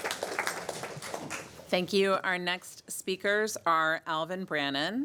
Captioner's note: applause